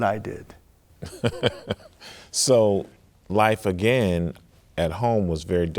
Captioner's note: chuckling